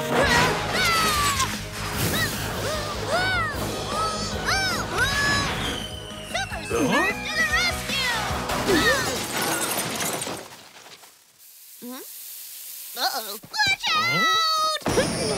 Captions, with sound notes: [screaming] [groaning] Super Smurf to the rescue! [banging] Hmm? Uh-oh. Watch out!